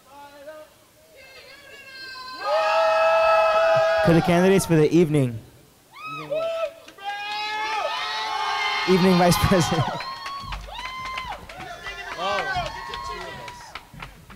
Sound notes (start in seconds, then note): 1.9 crowd screaming; 12.2 crowd cheering